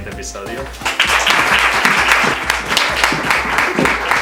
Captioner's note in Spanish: Aplauso